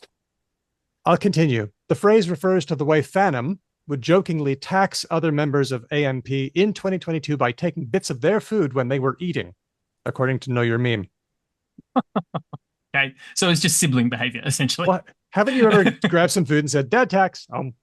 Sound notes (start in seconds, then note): 11.8 laughs